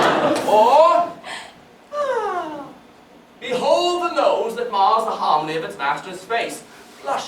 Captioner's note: parodying Pyramus’ sighs